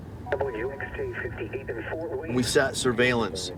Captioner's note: chatter on radio